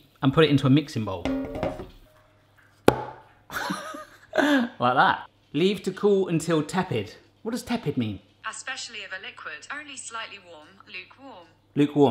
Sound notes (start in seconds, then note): 2.8 mixture plops; 4.0 laughs